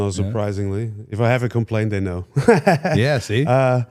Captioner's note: laughs